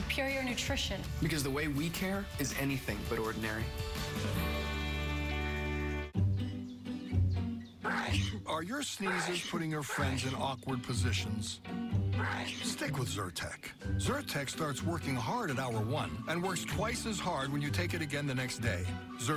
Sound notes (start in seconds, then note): 9.0 sneezing